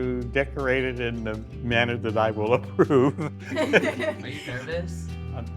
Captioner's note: chuckling